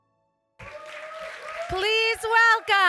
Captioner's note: applause